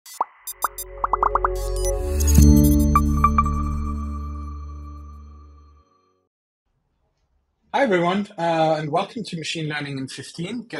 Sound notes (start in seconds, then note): 0.5 logos popping; 1.3 light music